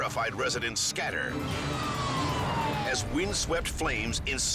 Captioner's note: siren screaming